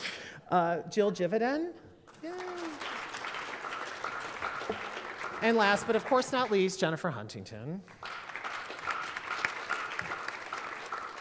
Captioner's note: applause